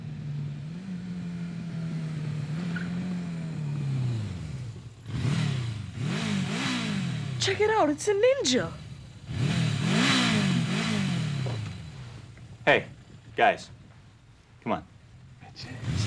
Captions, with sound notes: (motor revving) - Check it out! It's a Ninja! - Hey, guys, come on, sit down.